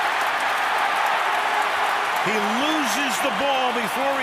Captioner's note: cheering